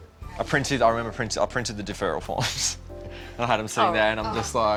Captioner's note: chuckles